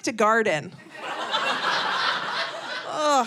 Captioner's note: audience laughing